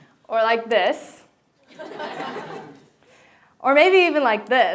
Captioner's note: laughter